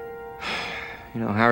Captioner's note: sigh